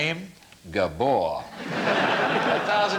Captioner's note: laughter